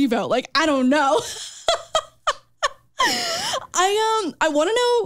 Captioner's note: chuckles